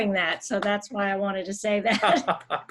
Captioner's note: laughs; laughing